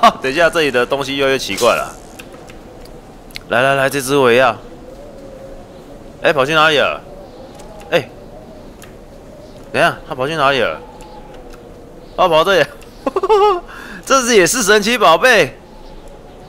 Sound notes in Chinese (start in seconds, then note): 0.0 笑聲; 13.0 笑聲